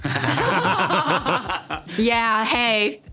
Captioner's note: everyone laughing